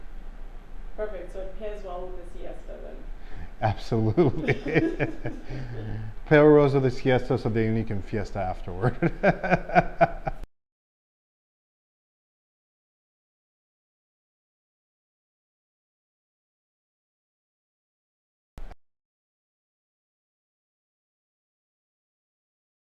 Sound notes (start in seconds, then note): 4.0 laughter; 8.8 laughter